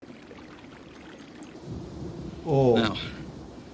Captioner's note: liquid sloshing